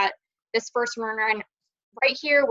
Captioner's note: audio distorts